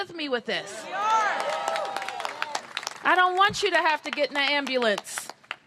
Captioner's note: cheers and applause